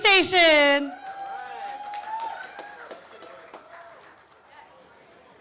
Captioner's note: cheers and applause